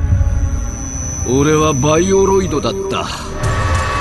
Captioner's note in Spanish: voz robótica